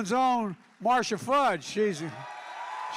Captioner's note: applause